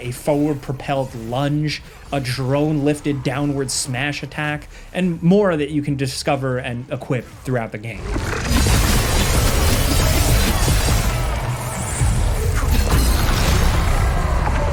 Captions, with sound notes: a forward-propelled lunge, a drone-lifted downward smash attack, and more that you can discover and equip throughout the game. (blades crashing) (chaotic music)